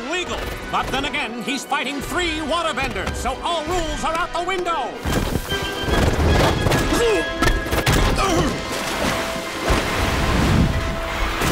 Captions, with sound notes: But then again, he's fighting three water benders, so all rules are out the window! [grunting] [water splashing]